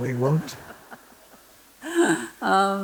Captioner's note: laughter